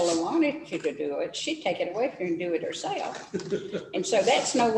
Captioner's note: laughter